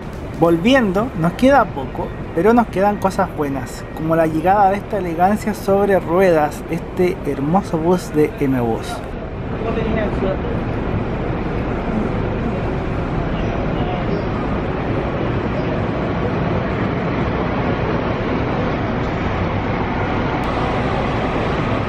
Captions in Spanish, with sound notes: volviendo… nos queda poco, pero nos quedan cosas buenas como la llegada de esta elegancia sobre ruedas este hermoso bus de ‘Eme Bus’ (sonido ambiente, llegada del bus 'Eme Bus 211')